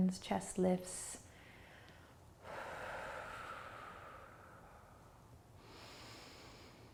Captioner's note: deep breathing